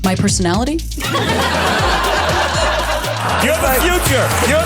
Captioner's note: audience laughs